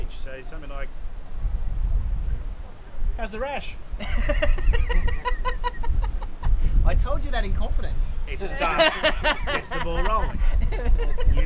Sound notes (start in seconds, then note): 4.3 laughs